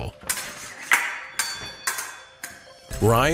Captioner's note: swords clanking